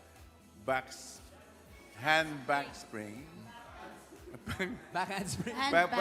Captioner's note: chuckles